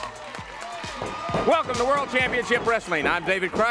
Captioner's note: crowd cheering